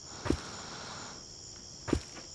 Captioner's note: thud of footsteps